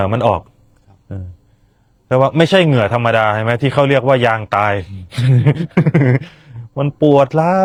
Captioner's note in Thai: เสียงหัวเราะ